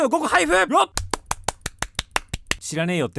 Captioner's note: applause